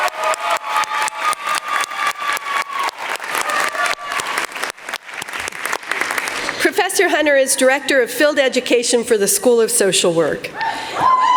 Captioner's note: crowd cheering